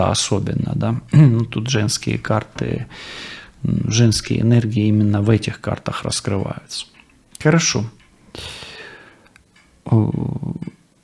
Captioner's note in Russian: откашливается